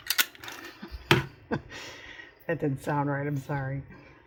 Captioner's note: laughs